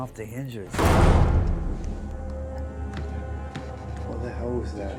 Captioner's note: door slamming